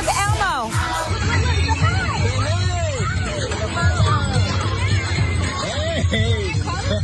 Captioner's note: laugh